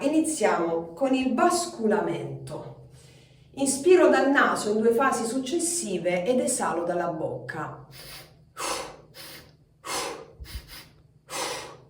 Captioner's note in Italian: sbuffare